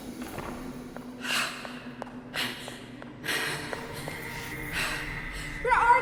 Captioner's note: Julie panting; footsteps tapping